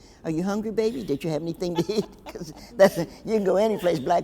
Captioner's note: laughs